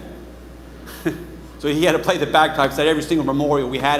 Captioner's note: chuckles